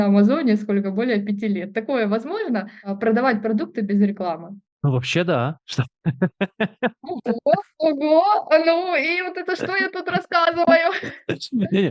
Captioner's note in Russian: смеется